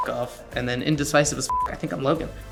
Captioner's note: beep